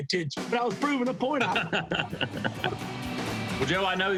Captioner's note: laughter